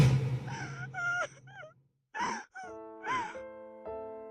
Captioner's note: crying; sad piano music